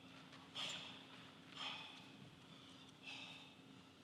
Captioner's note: Robert gasping